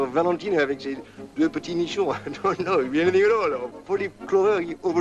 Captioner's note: French spoken audio